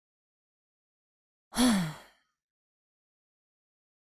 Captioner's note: sigh